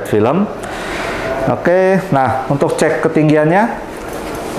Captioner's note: inhale